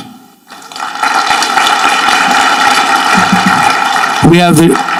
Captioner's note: audience clapping